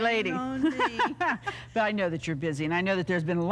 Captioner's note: laughs